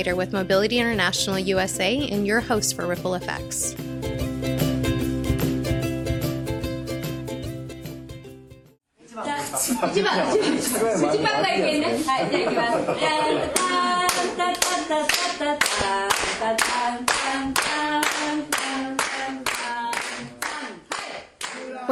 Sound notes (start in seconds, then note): 9.2 party Background with clapping